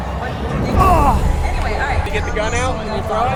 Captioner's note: announcements over speakers; grunts